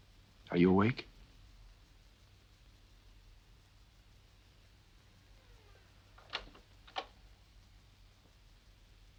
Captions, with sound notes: Are you awake? (door creaks) (door clicks)